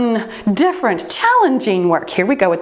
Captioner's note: timer beeps